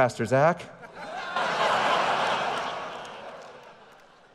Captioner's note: audience laughing